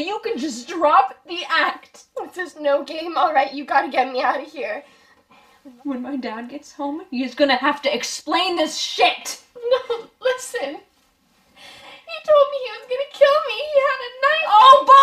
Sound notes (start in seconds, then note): 12.0 sobbing